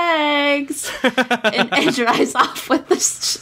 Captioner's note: laughs